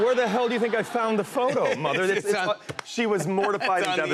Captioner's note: laughter